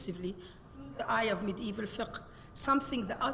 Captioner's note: speaks Arabic